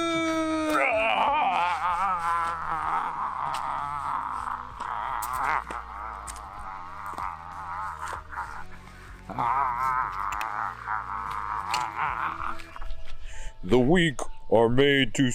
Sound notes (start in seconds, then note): 5.8 screams and yells